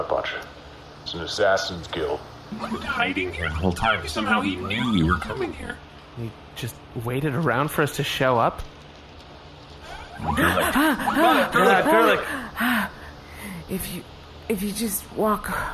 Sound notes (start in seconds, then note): 11.8 gasps